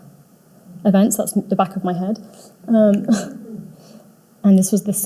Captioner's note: audience laughing